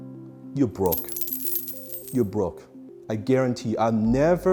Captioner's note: coins tinkling